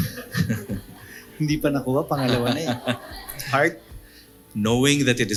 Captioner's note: laughs